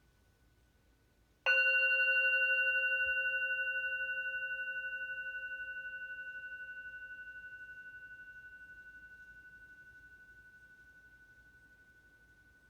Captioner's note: meditation bell rings